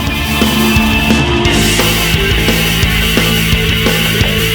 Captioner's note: crowd cheering; bright rock music